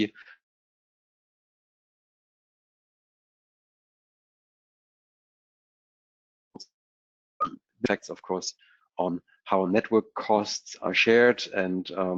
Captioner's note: break in audio